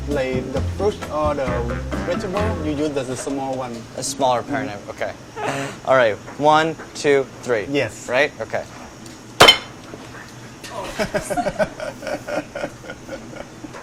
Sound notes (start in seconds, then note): 9.4 chopping noise; 10.7 laughter